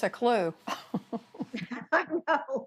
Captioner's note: laughter